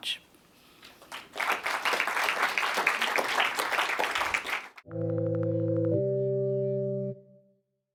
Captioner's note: applause